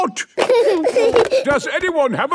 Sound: giggling

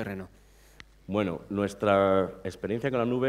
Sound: speaking spanish

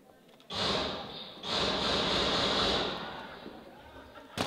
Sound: gunshots

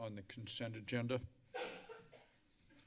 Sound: coughing

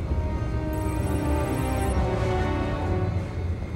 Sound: beeping

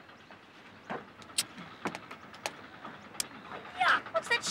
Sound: lips smacking

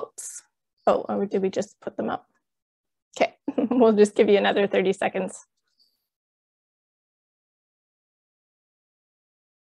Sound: chuckles

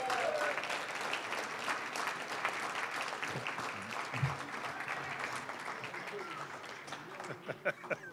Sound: applause, cheering; applause; laughing

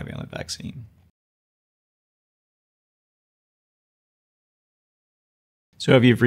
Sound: silence

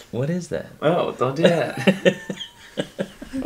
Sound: laughing

